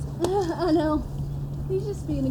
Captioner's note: laughs